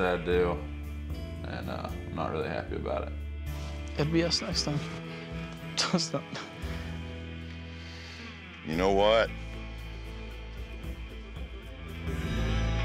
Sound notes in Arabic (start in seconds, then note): 4.6 يضحك